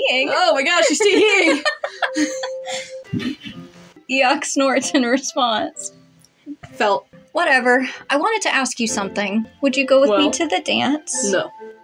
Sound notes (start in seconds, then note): 0.4 laugh; 0.8 chuckle; 2.8 Eeyok Snorts